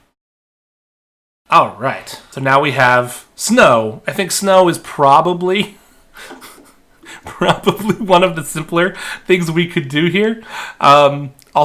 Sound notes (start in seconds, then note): 6.1 laughing